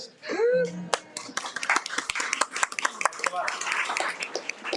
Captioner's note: audience applauds